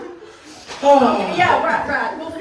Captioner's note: dramatic sigh; even more dramatic sigh